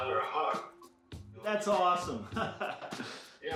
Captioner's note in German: lacht